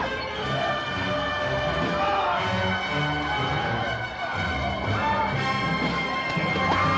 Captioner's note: people screaming in all directions